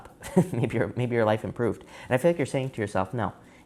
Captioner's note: chuckling